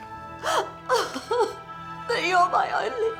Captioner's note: Mom sobbing